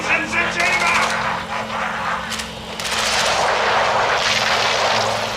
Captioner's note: gunfire